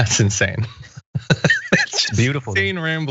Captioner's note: laugh